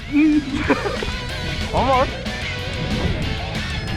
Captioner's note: laughing